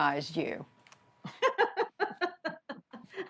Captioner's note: laughter